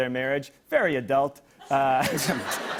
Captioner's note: laughter